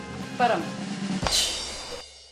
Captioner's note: speaking in Hindi